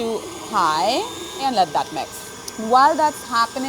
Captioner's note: mixer whirring